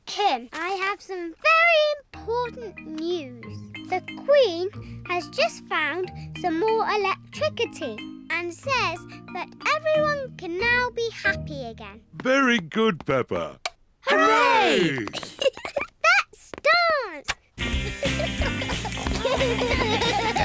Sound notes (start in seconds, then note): 14.6 giggles